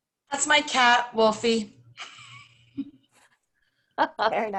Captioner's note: chuckles